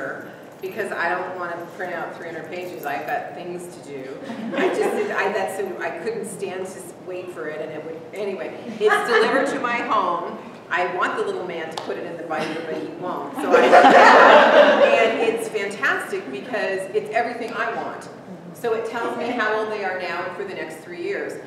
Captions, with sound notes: Because I don't want to print out 300 pages, I've got things to do. I just, I couldn't stand to wait for it. Anyway... It's delivered to my home. I want the little man to put it in the binder, but he won't. (laughter) And it's fantastic, because it's everything I want. So it tells me how old they are now and for the next three years.